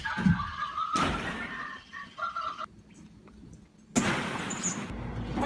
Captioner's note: plastic balls rustling